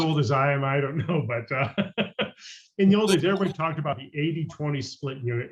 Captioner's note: laughs